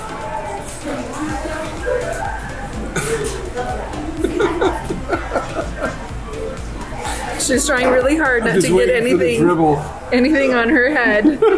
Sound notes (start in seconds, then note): 0.2 background people chattering; 4.2 laughs